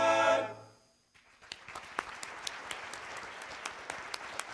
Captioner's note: applause